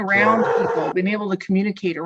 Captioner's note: dog barks